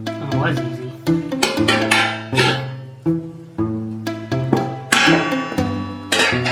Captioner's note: sound of hammer striking the foot